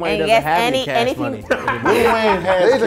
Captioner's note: laughing